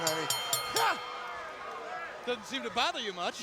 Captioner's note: bell ringing